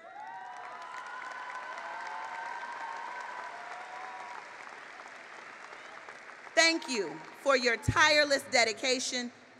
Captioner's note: cheering and applause